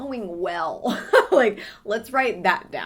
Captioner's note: laughing